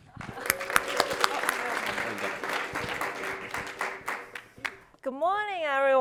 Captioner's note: audience cheering and applauding